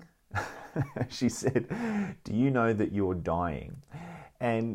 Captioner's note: laughs